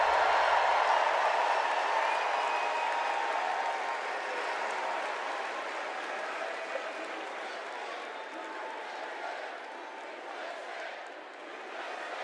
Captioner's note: cheers and applause